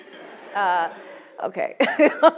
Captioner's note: audience laughs